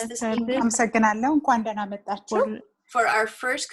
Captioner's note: speaking foreign language